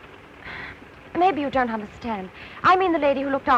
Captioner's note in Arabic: تنهد